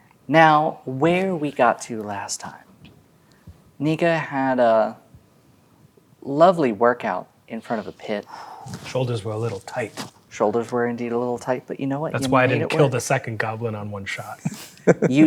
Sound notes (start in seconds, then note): 7.7 exhales; 14.4 chuckles